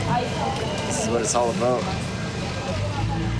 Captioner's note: speaking In Foreign Language